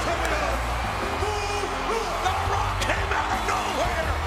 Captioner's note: crowd cheering